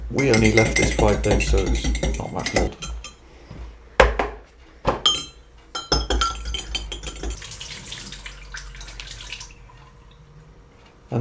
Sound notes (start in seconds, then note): 2.6 utensils clinking; 6.3 water trickling